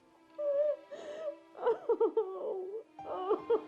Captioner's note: crying